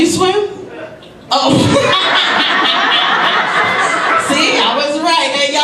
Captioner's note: laughs; audience laughs